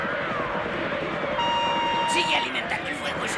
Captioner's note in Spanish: disparos y gritos de indios; silbato